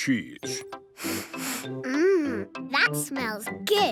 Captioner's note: sniffs